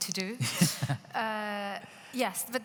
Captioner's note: laughing